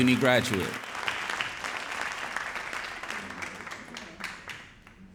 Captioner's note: audience applauding